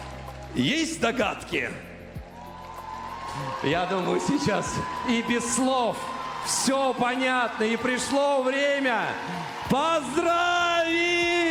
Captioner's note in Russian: ликование